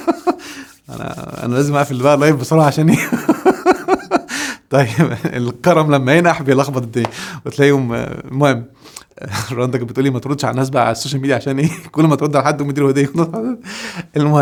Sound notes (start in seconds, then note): 3.4 laughs!